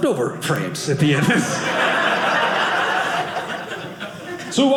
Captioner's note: audience laughing